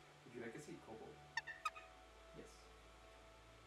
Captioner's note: kobold chirps